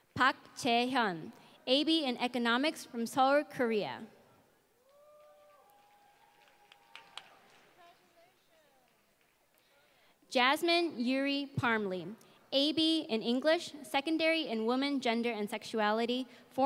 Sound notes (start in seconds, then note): 5.0 applause